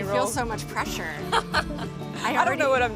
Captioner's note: laughing